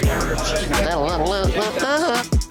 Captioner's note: humming